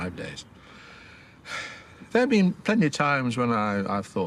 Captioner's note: he exhales